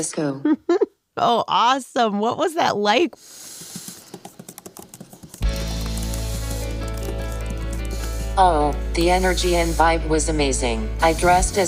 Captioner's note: laughs